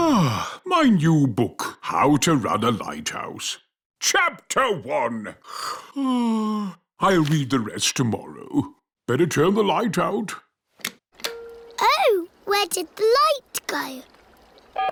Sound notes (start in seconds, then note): 5.6 yawns